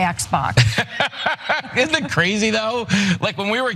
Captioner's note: laugh